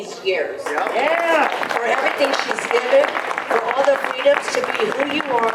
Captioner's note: audience applause